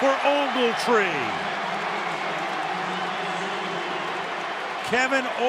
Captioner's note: cheering